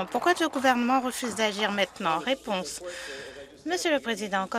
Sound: some Applause

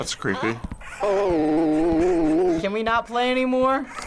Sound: Tattletail warbles, low-pitched

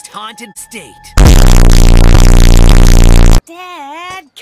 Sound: distorted sounds

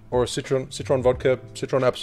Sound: none

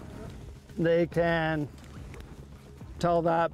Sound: voiceover

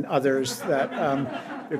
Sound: audience laughs

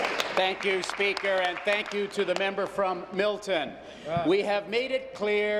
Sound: applause

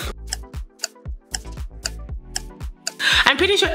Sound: clock ticks

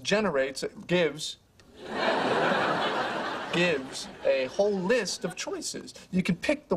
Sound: laugh

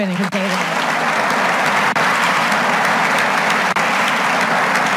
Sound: audience applauds

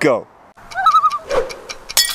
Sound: loon call

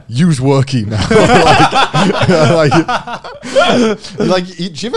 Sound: all laughing

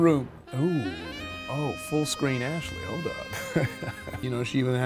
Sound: laughs

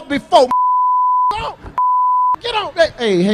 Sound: beep

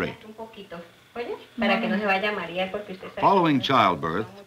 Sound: speaking Spanish

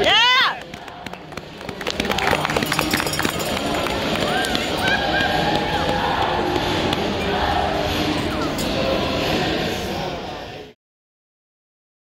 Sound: applause, bells, and cheers from the crowd

